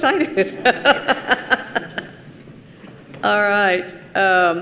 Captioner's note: participants laugh